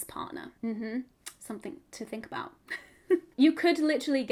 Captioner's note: laughing